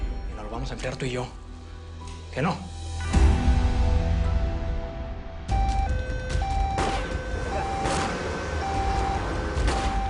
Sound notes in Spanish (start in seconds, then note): 6.5 Disparos